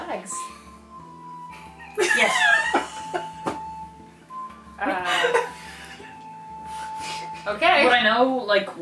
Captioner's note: confused Laughter